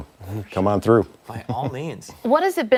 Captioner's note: laughter